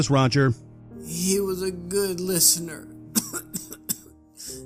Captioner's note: coughs